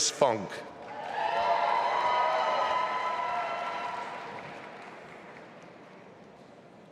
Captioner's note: audience applauding and cheering